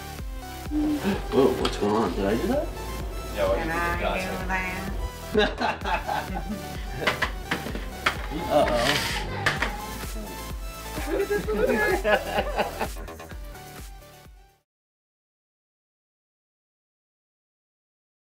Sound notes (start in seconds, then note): 5.2 chuckles; 7.7 baby crying